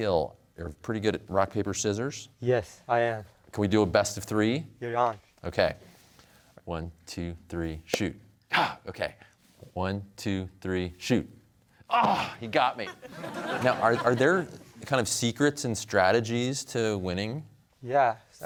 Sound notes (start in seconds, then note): 8.3 exclaims; 11.9 grunts; 12.8 laughter